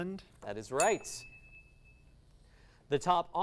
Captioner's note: ding